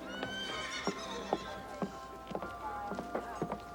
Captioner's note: horse neighs